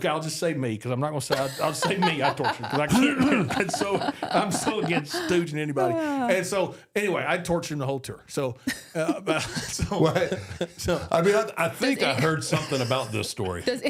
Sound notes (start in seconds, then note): 1.3 laughs; 2.7 Mark coughs